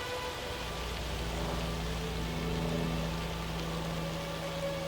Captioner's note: helicopter whirring